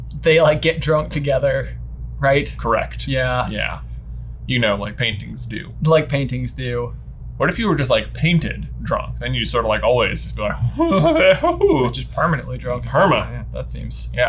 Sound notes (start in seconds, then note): 10.7 grumbles